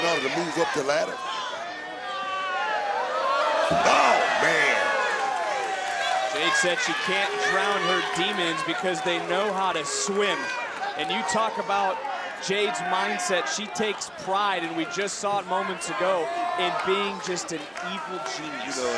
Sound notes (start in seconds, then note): 5.9 crowd cheers